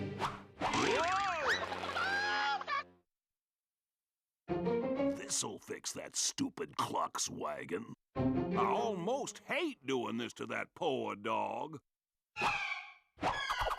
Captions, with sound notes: [screams] [Foghorn clucking] THIS'LL FIX THAT STUPID CLUCK'S WAGON. I ALMOST HATE DOING THIS TO THAT POOR DOG.